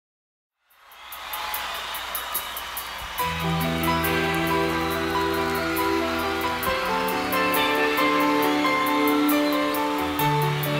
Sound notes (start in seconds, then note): 0.6 audience cheering; 3.3 gentle keyboard music